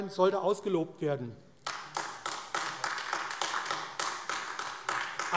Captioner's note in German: Beifall AfD